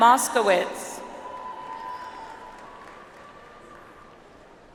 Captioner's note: audience applauds